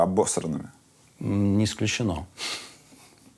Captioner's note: chuckles